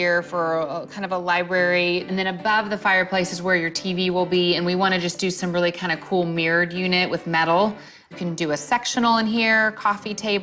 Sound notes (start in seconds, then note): none